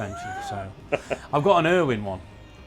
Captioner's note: laughs